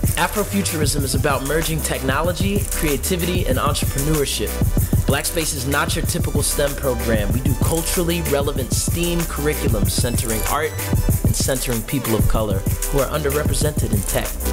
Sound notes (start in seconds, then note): none